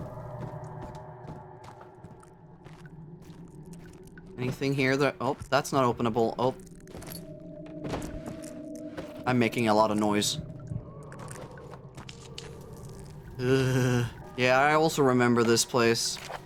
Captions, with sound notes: Anything here that- oh, that's not openable. Oh. I'm making a lot of noise. (Shudder) Yeah, I also remember this place.